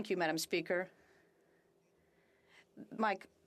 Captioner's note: speaking FRENCH